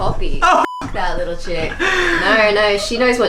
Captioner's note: laughs